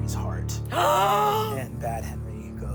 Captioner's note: gasps